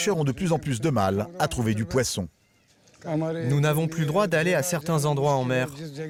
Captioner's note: Ghani speaking foreign language